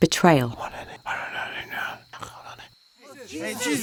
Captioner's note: Judas and Pharisee whispering